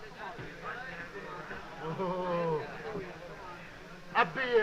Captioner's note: exclaiming in frustration